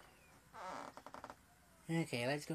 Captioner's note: floor board creaks